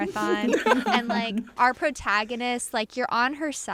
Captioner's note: laughter